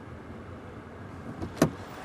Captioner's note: none